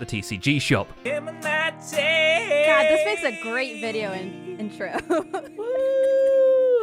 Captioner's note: giggles